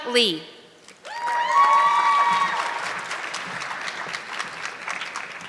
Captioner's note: audience clapping